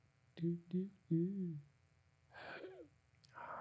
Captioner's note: humming